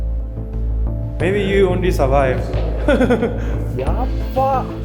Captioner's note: laughs